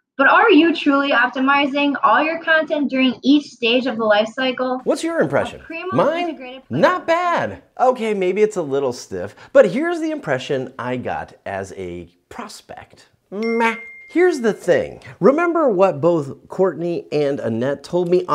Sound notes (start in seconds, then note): 13.4 bell ringing